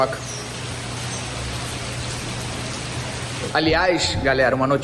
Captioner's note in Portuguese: barulho de chuva